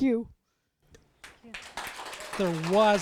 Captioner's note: audience clapping